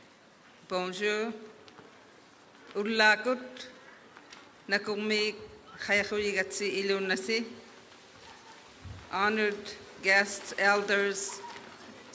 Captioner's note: applause